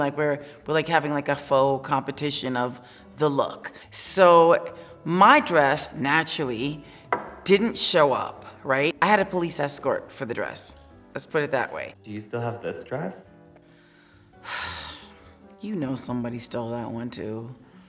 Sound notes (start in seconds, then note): 14.4 sighs